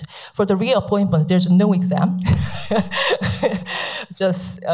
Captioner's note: laughs